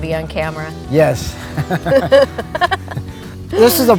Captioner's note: laughing